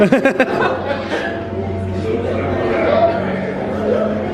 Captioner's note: laughing